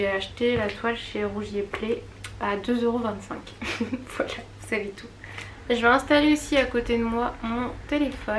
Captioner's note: laughs